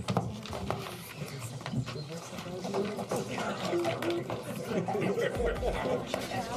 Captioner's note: crowd Noise